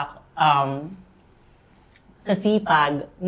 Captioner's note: none